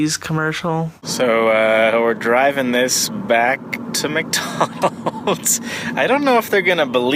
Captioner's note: laughing